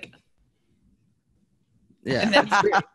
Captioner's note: silence